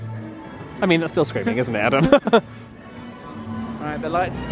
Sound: laughs

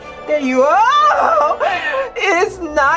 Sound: gasps

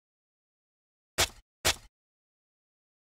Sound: sound of garden shovel

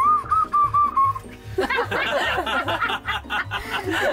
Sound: laughter

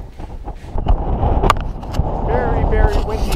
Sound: wind blowing

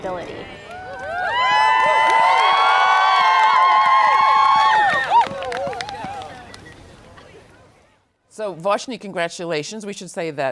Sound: cheering

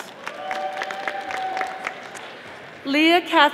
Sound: audience applauding

